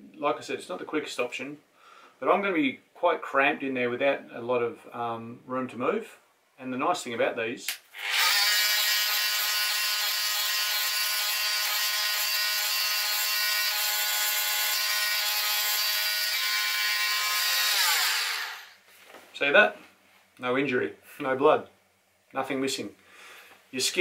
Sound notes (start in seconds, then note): 8.1 power tool revving